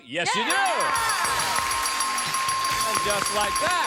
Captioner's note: dinging